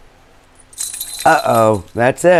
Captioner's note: bells ringing